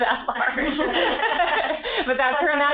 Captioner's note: laughter